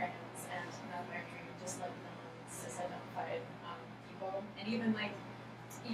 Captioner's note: speaking softly